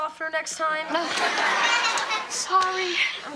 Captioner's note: audience laughs; Kevin slapping face